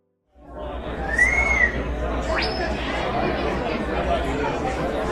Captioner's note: crowd chattering